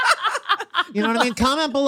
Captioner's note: laughing